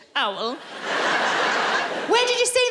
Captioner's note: laughing